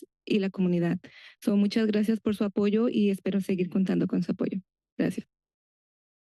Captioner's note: foreign language